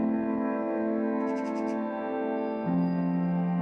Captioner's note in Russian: звуки сороки